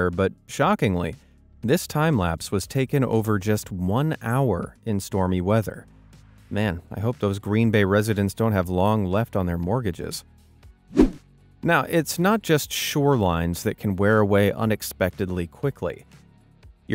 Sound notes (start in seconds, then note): 10.9 swoosh